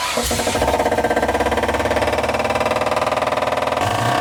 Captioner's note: fast knocking noise